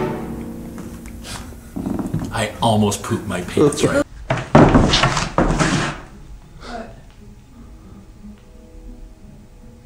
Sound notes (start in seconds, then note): 4.2 chair falling over